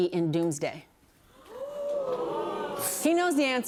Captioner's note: audience gasps and groans